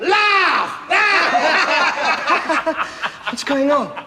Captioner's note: laughter